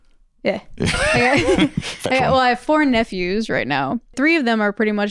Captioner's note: laughs